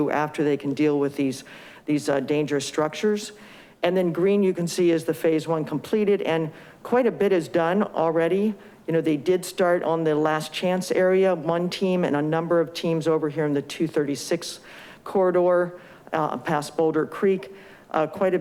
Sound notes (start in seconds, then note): none